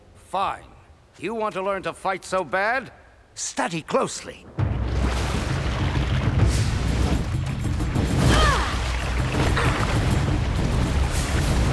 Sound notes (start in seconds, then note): 8.1 groaning